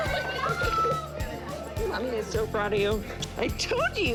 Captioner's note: kisses